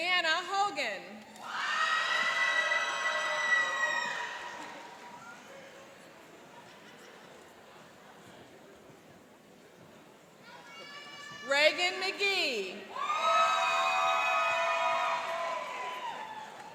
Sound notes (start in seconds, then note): 1.4 cheering and applauding; 12.9 cheering and applauding